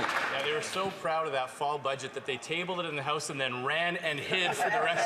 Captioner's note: some Applause